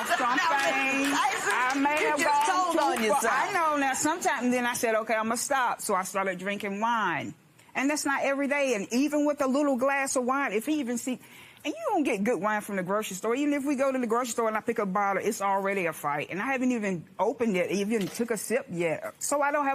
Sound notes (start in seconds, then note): 2.3 laughing